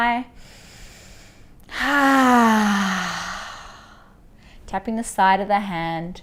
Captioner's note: inhaling and exhaling